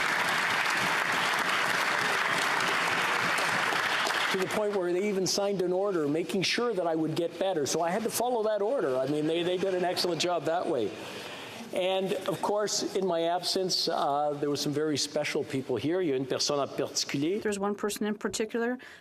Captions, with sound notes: CLERK'S OFFICE WHO DID OUTSTANDING WORK. [ Applause ] TO THE POINT WHERE THEY EVEN SIGNED AN ORDER MAKING SURE THAT I WOULD GET BETTER, SO I HAD TO FOLLOW THAT ORDER. I MEAN, THEY HAVE DONE AN EXCELLENT JOB THAT WAY.